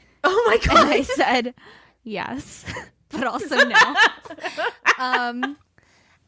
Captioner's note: laughing